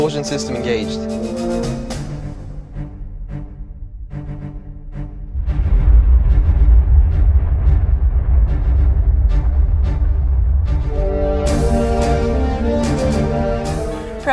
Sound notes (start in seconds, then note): 2.6 instrumental music; 7.1 rocket engine roaring; 10.7 instrumental music